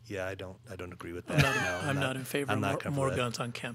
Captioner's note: laughing